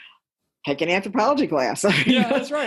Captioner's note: laughter